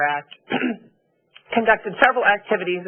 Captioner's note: clears throat